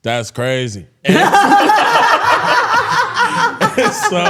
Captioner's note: all laughing